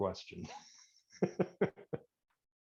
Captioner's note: laughs